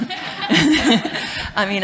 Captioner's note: laughter